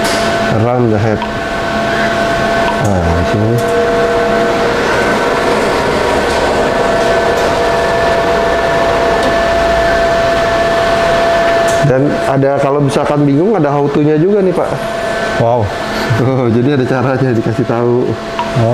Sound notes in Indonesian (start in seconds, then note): 0.0 suara mesin; 3.8 suara mesin printer; 15.5 tertawa kecil; 18.2 suara touch screen